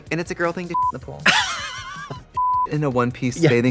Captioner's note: beep; Katya laughs; beep